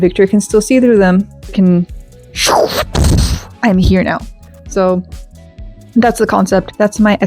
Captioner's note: whoosh explosion